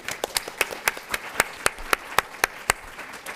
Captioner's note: applause